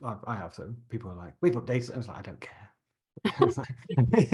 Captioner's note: laughter